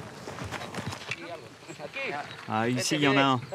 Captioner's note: Spanish language